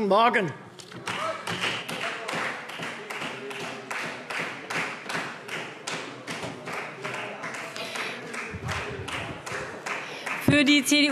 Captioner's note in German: Beifall Freie Demokraten